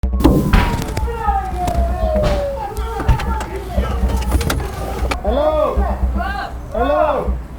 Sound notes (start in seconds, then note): 0.0 sirens; 1.9 items being thrown and unintelligible yelling; 6.1 Multiple Community members yelling